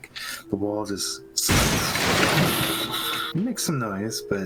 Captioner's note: shhhwoooppp